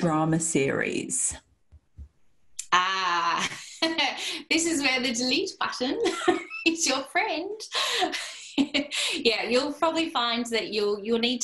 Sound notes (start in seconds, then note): 7.8 laughter